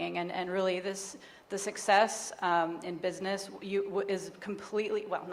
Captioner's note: none